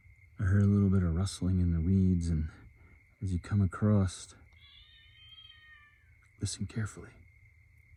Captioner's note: odd cat squawling noises